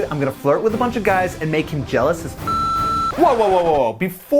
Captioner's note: beep